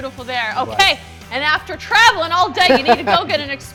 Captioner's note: laughs